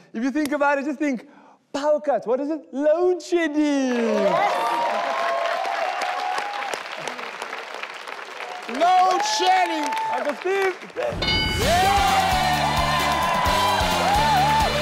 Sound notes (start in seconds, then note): 4.0 audience applauding and cheering; 11.1 upbeat music; 11.1 metallic chime